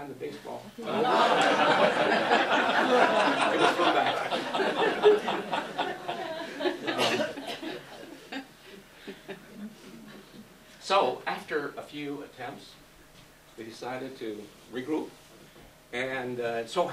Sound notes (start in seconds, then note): 11.9 laughs